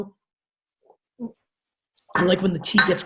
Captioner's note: gulps